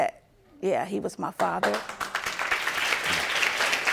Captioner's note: audience applauding